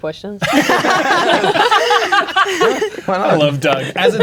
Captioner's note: players laughing